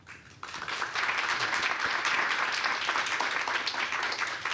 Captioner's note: audience applauding